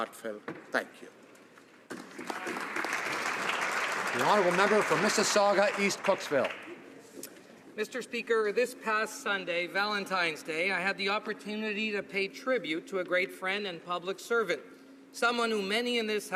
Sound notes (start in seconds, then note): 6.4 some Applause